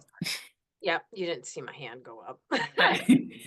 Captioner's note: laughs